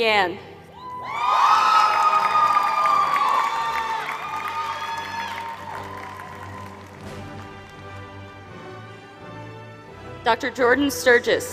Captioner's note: applause